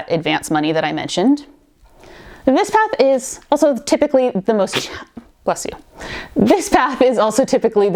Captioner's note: sneezes